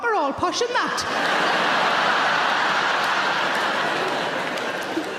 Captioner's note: audience laughs